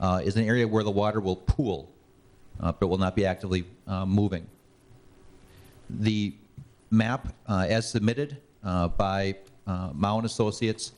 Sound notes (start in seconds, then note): none